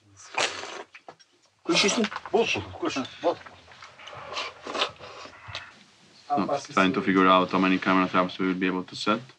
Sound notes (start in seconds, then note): 1.7 men chat in Mongolian